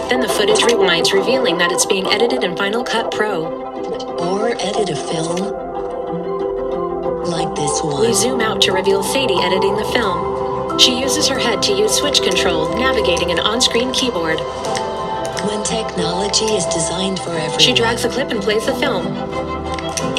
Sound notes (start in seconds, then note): 15.2 keys clicking